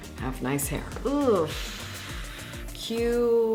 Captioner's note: sighs